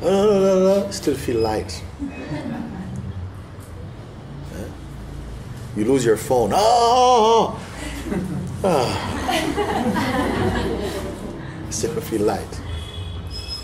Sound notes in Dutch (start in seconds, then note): 2.0 gelach; 7.8 gelach